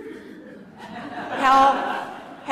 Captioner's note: laughter